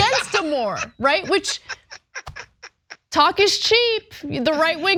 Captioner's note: laugh